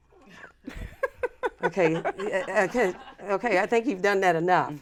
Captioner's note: laughs